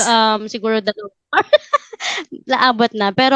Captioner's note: laugh